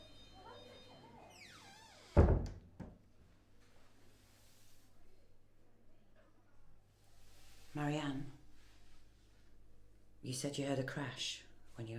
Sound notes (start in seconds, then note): 0.1 people chatting faintly; 1.2 door closes